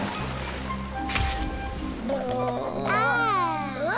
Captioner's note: whale songs; camera flash